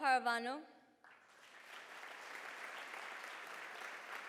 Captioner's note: applause